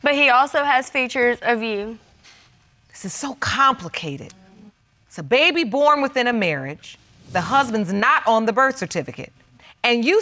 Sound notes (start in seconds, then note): none